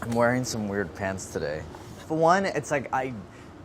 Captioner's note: none